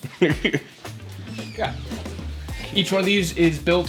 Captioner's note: laughs